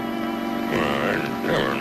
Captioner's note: somber music; chuckles